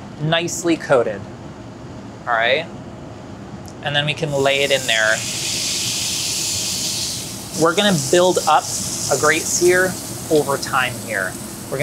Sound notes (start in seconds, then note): 4.4 steak sizzles